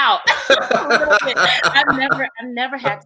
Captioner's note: laughing